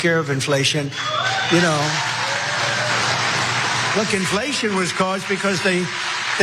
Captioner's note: applause